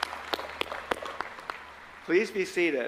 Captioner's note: applause